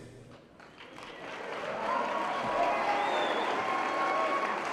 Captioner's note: applause